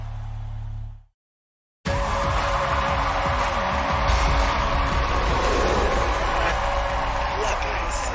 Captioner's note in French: applause